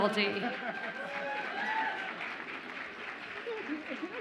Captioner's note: audience applauds and cheers